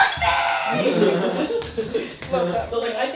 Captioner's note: laughing